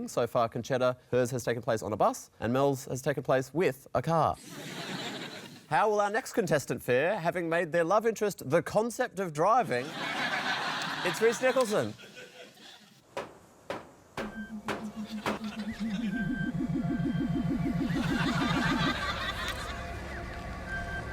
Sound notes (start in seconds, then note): 13.6 metal banging sound effect; 14.3 eerie spaceship sound effects